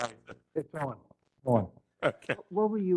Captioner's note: laugh